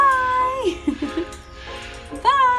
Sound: laughs

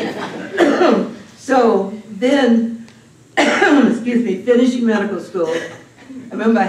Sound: coughs

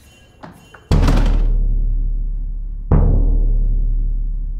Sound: door clicking; rhythmic drum music

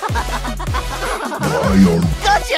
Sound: laughter

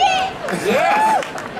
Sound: audience laughing

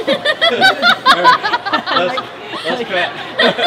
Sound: film crew laughs

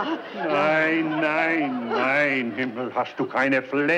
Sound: speaking in German

